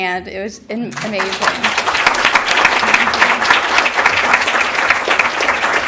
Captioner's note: applause